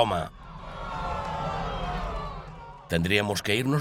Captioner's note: crowd yelling